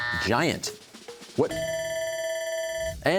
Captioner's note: buzzer; bell ringing